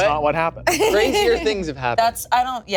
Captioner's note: laughing